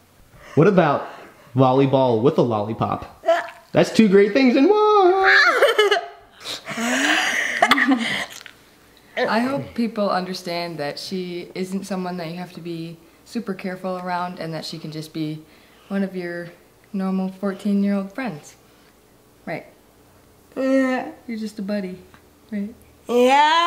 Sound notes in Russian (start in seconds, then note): 5.3 смех